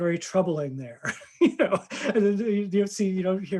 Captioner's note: laughing